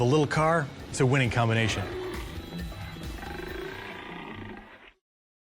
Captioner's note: tiger growl